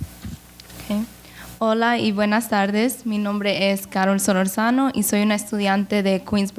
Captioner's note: speaks in foreign language